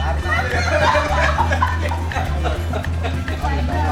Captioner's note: laughs